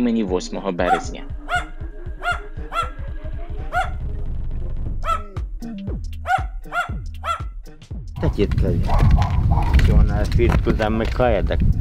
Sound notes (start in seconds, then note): 3.0 A dog is barking